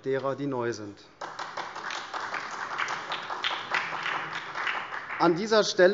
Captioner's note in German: Beifall SPD